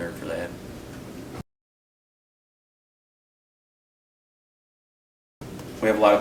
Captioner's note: silence